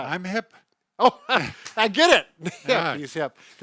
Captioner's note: laughs